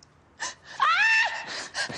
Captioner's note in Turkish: Çığlık